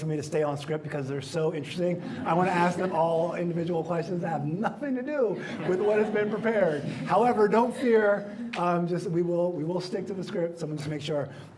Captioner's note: laughter